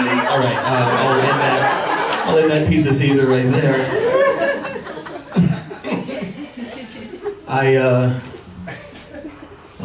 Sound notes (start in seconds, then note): 1.4 laughter; 5.3 chukles